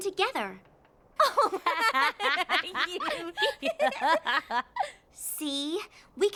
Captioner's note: both laugh